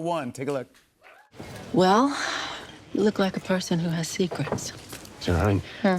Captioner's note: sighs